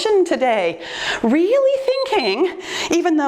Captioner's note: timer beeps